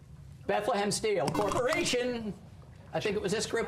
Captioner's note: buzzer